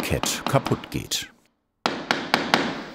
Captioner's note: knocking